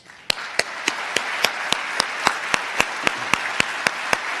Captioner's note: applause